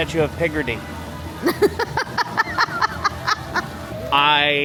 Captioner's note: Laughs at Austin as usual